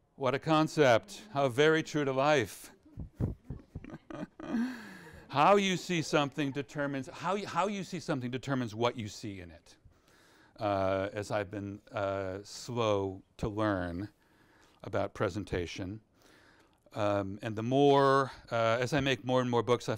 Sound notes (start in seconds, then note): 2.8 presenter laughs